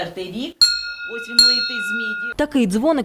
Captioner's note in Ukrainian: Звучить дзвіночок